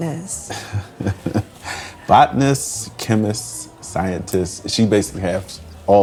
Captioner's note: laughing